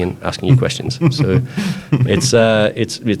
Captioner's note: laughs